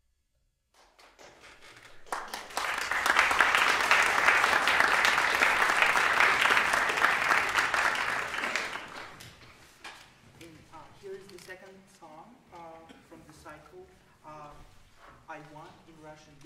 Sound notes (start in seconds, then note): 0.7 applause